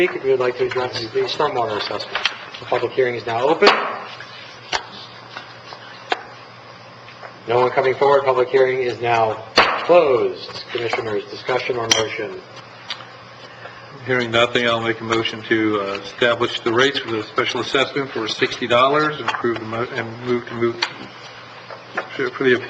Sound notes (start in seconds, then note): 3.6 gavel striking; 9.6 gavel striking